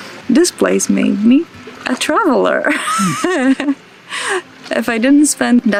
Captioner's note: laughs